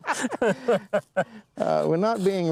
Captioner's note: laughter